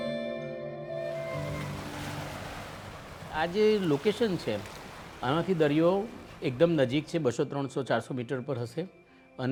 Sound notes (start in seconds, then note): 1.1 sea waves lapping; 3.7 in Gujarati